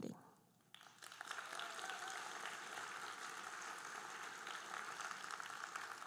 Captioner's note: audience cheering and applauding